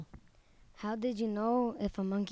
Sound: voiceover

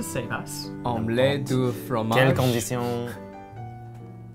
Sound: reading in French

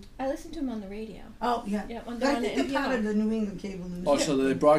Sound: voiceover

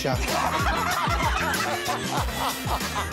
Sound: laughter

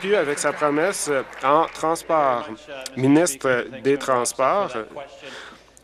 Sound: applause

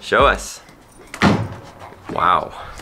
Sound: hard thuds on ground

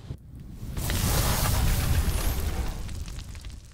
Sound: metal burning

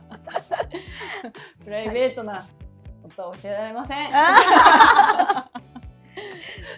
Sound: laughs

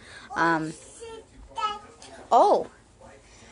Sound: child babbling

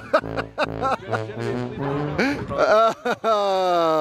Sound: father chuckles

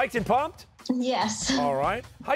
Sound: chuckling

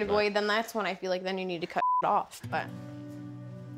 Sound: beep

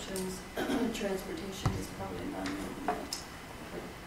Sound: faintly speaking

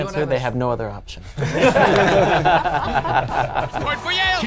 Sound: laughing

